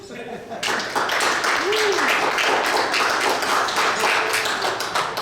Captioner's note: audience chuckles; audience applauds